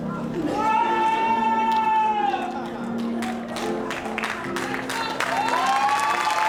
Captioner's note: audience applauding and cheering